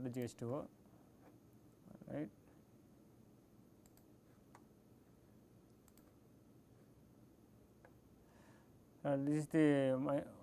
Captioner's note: click